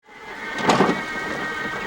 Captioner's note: electric motor whirring sound